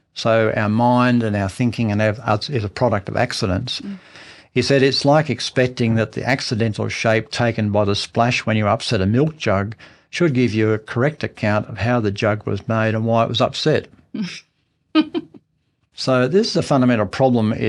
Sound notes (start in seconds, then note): 15.0 chuckles